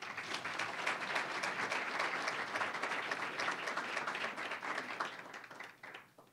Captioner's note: applause